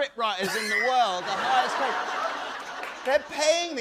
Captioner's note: laughter